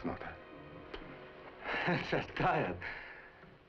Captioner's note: laughs